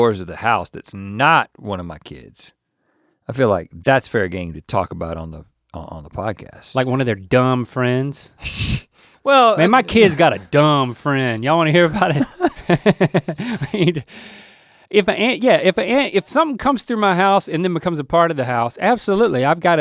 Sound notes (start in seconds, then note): 9.6 laughing; 11.8 both laughing